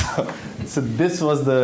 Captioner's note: laughs